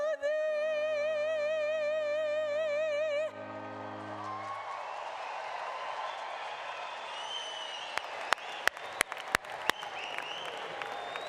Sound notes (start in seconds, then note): 8.3 applause